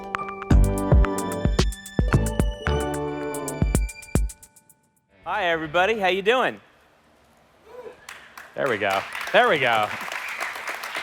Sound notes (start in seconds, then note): 8.0 applause